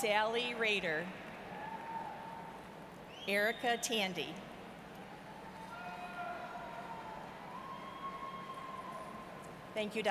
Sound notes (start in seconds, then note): none